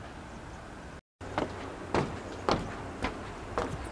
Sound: foot steps clomp

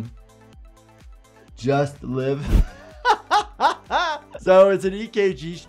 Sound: laughing

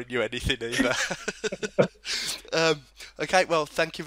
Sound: both laugh at equally funny joke

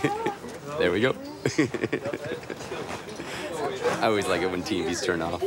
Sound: laughing

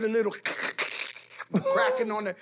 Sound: imitates cracking

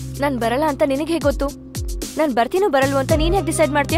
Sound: none

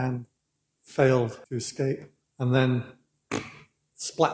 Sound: splat

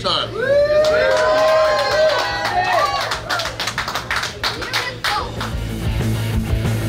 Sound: cheering & Clapping

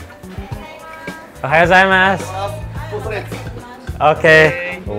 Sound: speaks in foreign language

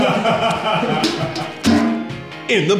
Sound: laughter; clang

